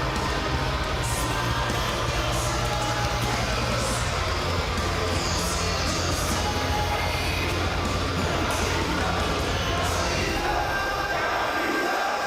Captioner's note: crowd cheering